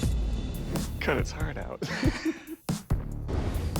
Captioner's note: laughing